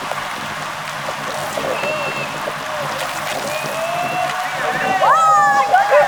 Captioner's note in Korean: 주민분들 응원소리